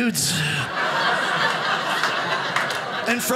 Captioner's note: audience laughing